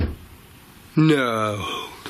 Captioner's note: bang